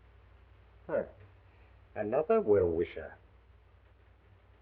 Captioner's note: scoffs